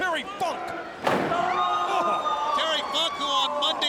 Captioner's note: Daffney screams